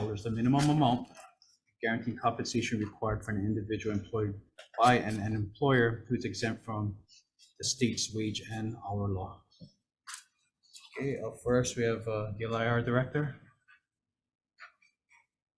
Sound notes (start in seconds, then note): none